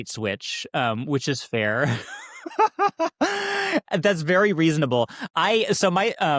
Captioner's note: laughing